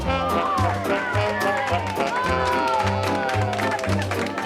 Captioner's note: cheering